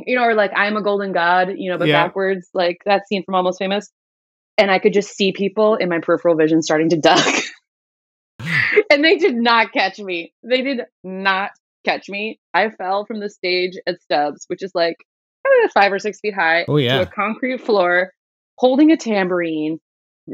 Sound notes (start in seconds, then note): 7.1 laughter